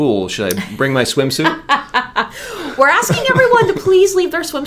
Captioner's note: laughs